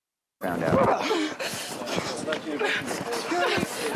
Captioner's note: muted; struggling